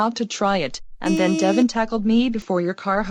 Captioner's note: car horn honking